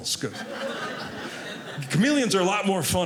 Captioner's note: audience laughing